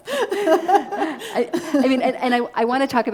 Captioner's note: both laughing